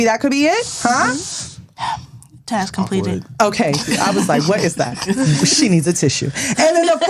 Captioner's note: deep breath; laughter